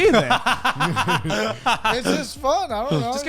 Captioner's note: laughing